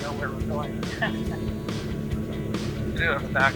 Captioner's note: laughs